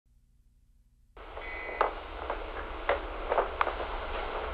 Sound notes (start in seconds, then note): 1.2 static hisses